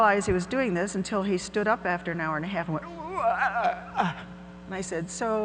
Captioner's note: groans